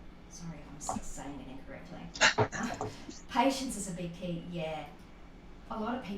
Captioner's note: laughter